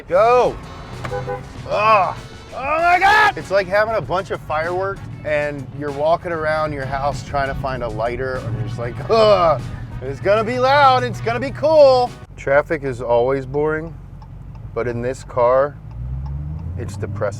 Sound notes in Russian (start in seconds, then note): 0.0 гудок; 1.5 Стенания